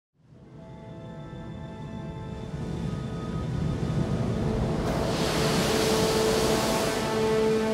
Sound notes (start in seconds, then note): 0.2 soft music; 2.4 waves crashing